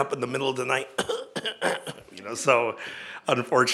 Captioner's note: pretends to cough